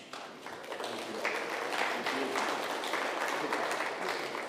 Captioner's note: crowd clapping